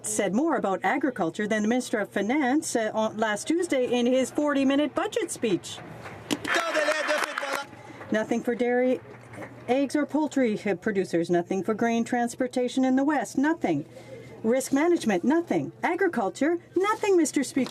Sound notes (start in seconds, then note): 8.9 some Applause